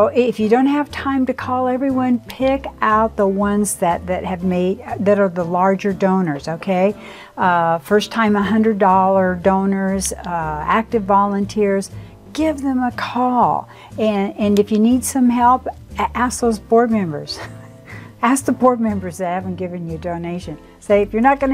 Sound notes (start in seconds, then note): 17.4 laughs